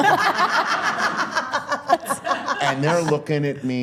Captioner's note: all laughing